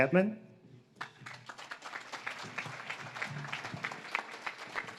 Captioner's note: audience claps